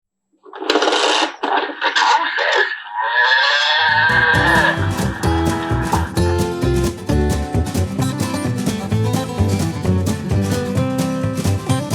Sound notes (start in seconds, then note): 0.3 toy rattling; 3.8 cow mooing; 4.0 upbeat music